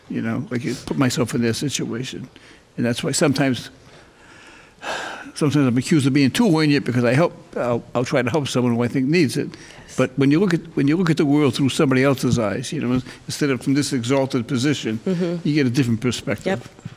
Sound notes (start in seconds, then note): none